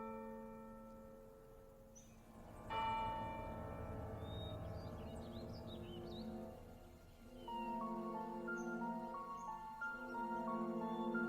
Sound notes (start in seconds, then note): 1.8 unsettling music playing; 1.9 birds singing